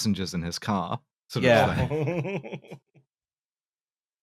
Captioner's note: chuckles